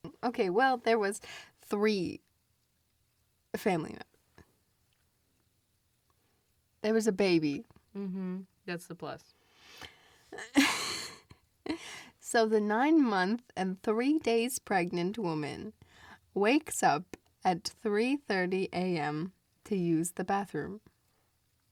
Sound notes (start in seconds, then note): 10.4 laughs